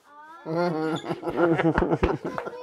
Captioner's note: Lachen